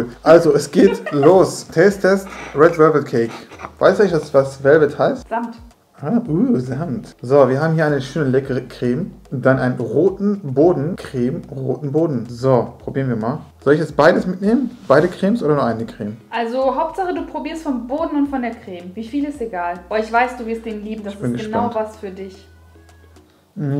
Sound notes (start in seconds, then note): 1.8 laughing; 5.4 in German